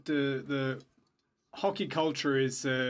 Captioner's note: speaking French